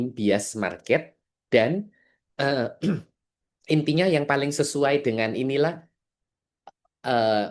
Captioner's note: berdehem